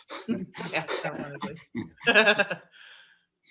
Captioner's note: giggles